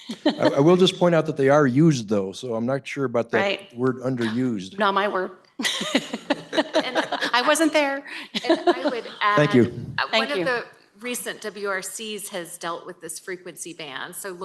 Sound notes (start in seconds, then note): 5.6 laughs